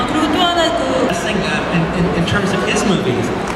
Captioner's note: speaking Korean